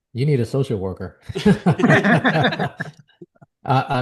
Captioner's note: laughing